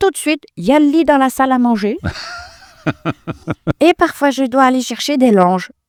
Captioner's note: laughs